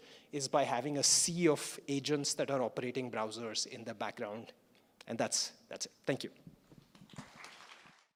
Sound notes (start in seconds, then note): 7.0 applause